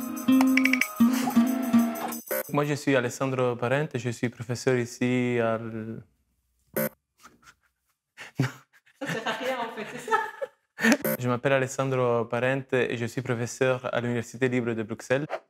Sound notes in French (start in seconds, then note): 6.7 rires